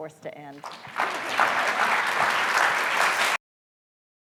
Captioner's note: clapping